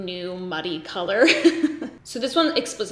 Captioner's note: laughs